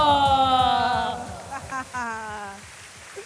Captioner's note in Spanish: Aplausos